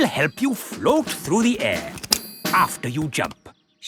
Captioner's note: clicking